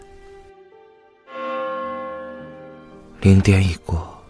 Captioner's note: the restaurant's midnight bell rings